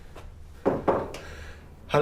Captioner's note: knocks on door